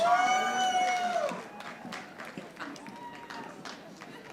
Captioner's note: audience applauding